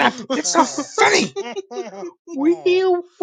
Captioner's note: still laughing and chuckling